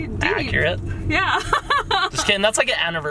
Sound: laughs

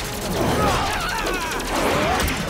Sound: shouts

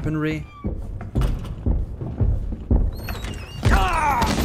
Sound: loud steps

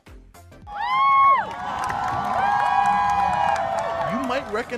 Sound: cheers

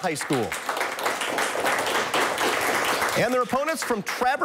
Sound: applause

